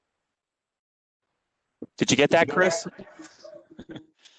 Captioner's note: laughter